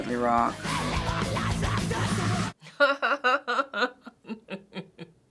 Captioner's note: laughs